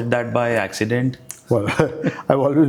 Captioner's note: laugh